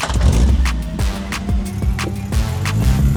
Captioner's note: engine turns over